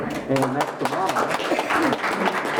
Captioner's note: group applause